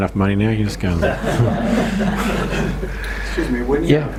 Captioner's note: audience laughs